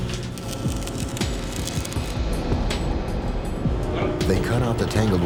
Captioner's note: blowtorch sparks